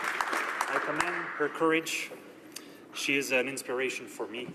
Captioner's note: applause